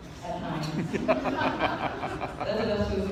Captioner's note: laughter